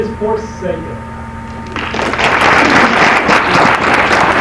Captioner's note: applause